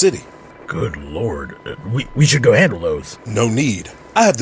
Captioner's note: stammering